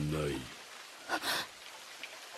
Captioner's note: gasp